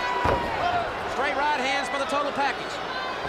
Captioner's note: crowd chatter